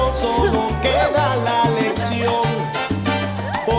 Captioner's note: Faith ríe